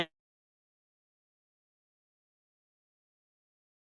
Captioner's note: audio cuts out